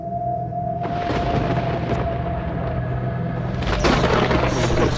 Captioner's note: thunder cracking